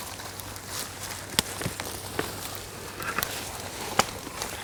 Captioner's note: branches breaking